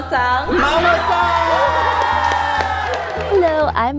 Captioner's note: cheering